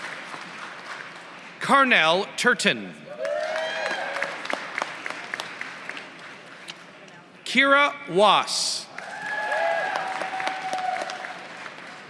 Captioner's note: applause; applause